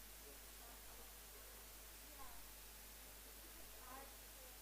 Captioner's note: indistinct conversation